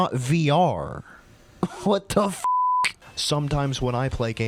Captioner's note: laughs